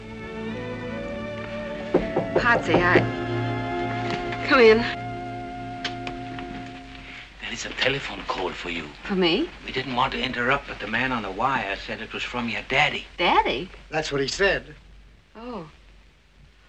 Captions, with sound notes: (KNOCKING AT DOOR) Pottsy, I... Come in. There is a telephone call for you. For me? We didn't want to interrupt, but the man on the wire said it was from your daddy. Daddy? That's what he said. Oh.